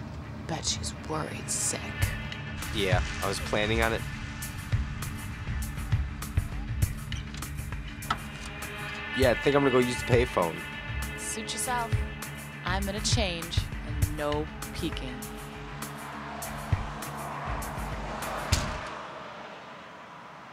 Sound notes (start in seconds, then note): 18.4 door slams